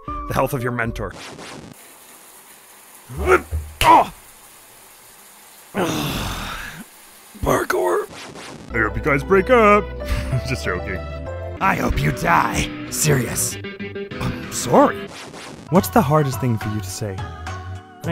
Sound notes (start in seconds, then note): 1.7 shower SFX